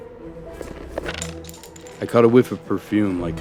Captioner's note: pencil clattering